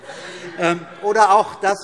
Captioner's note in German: Heiterkeit